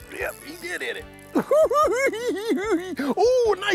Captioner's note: giggles